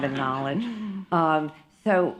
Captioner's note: laughter